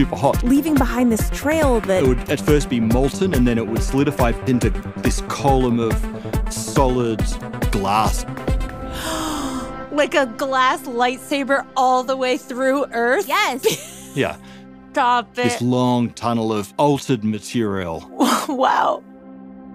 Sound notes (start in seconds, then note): 8.1 gasps